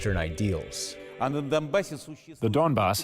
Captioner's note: through translator